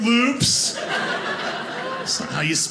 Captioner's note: audience laughing